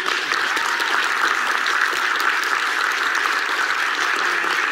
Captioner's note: audience applauds